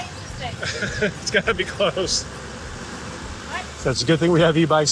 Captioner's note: laughs